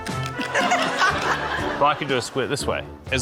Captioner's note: laughter